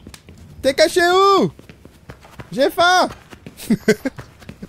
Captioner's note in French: Rire